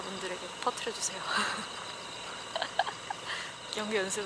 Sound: laughing

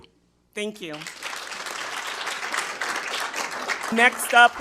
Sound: attendees applauding

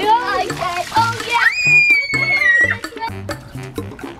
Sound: screaming

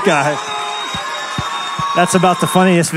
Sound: screams

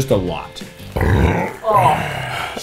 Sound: burping

